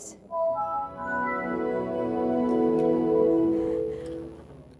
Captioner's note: electronic chiming